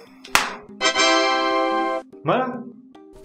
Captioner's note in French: son de démarrage de Windows 3.1